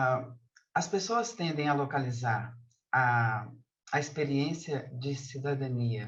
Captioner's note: begins speaking in Portuguese